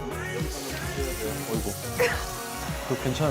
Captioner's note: water splashes